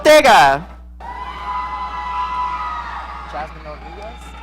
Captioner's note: audience cheering